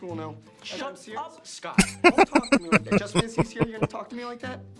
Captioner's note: laughing